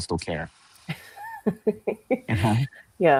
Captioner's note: laughs